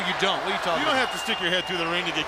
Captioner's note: crowd cheering